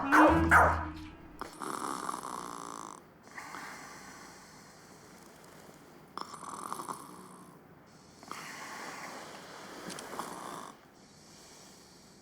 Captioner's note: dog barking; Maria snoring